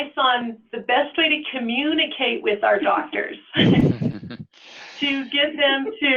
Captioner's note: laughs